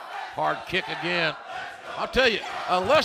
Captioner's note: fans chanting